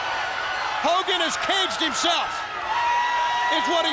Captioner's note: crowd chatter